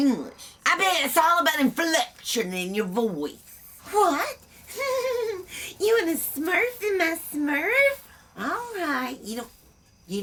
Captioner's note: in character voices